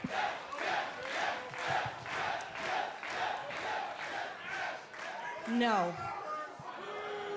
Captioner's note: crowd cheering